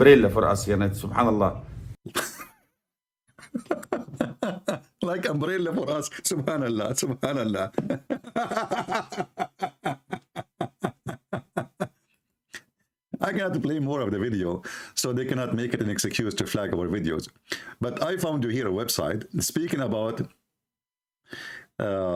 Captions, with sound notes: untuk kita subhanallah [Ketawa] jadi mereka tidak membuat alasan untuk bendera kami video tetapi saya mendapati anda disini web berbicara tentang